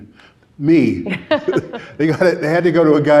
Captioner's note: laughing